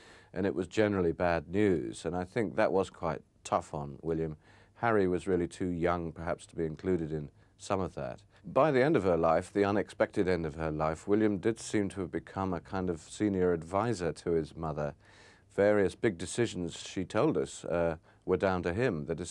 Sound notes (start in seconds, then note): none